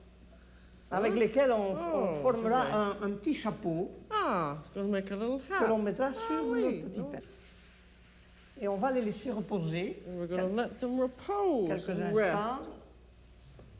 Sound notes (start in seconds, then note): 0.2 speaks French; 7.4 speaks French